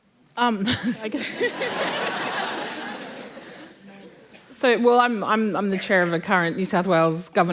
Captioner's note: laughter